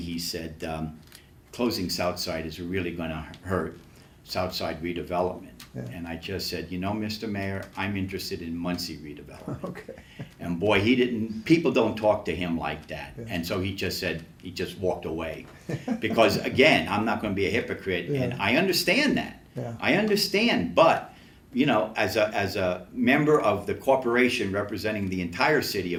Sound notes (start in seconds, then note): 9.3 laughs; 15.5 laughs